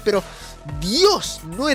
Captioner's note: inhales